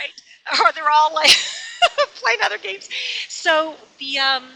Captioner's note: laughs